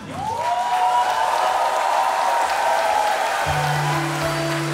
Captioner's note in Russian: аплодисменты